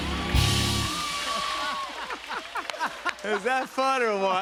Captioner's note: laughter